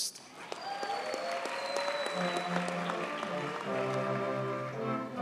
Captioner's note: audience cheers and applauds